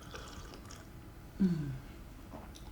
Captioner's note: sipping